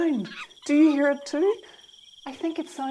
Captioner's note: monkey noises